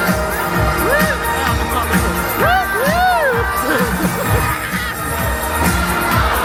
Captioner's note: upbeat music; whoops